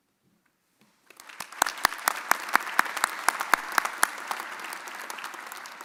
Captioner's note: audience applauding